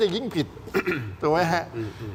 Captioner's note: clears throat